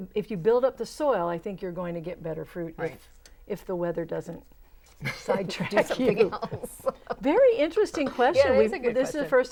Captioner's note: laughing